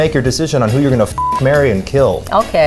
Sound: beep

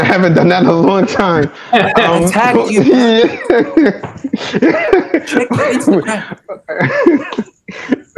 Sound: laughter

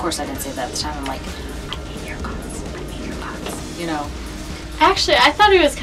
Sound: whispering “I hate your guts. I hate your guts.”

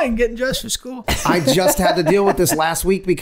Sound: Glenn laughing

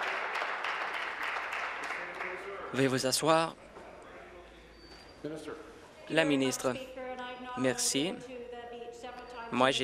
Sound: applause

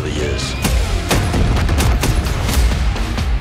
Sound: gunshots

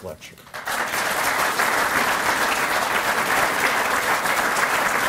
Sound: applause

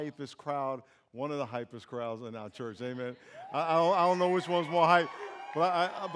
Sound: applause

